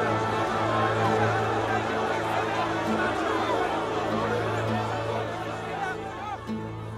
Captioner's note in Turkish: Kalabalık bağrışma sesleri